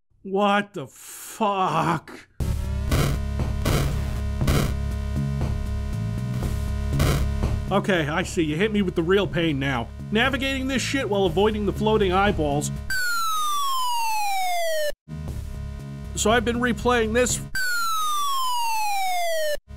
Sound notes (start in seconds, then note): 2.3 8-bit theme plays; 3.6 weapon firing; 4.8 8-bit theme plays; 7.0 weapon firing; 15.1 8-bit theme plays